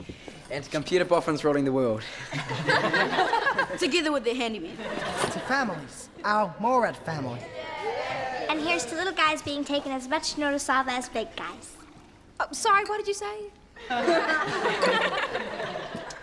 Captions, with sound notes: - And to computer buffs ruling the world. (laughing) - Together with their handymen. - To families, our mall rat family. (cheering) - And here's to little guys being taken as much notice of as big guys. - Sorry, what did you say? (laughing)